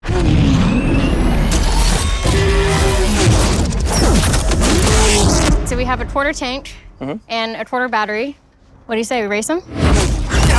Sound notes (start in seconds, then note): 2.1 engines roars